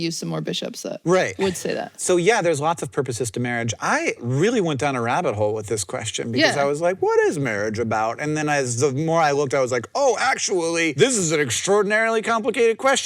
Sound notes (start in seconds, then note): none